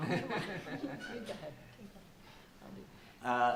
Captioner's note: laughing